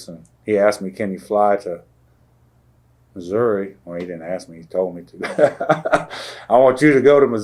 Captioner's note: laughter